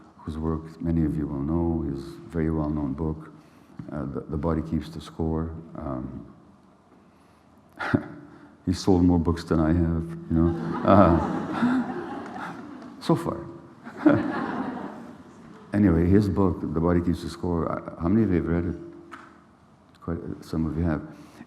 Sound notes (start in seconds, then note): 10.4 laughter